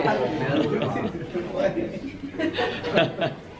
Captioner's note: laughing